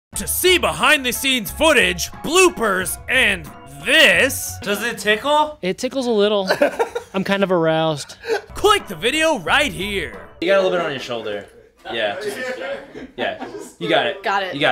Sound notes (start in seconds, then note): 6.4 laughter; 12.2 laughter off screen